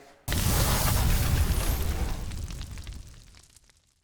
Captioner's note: logo crackles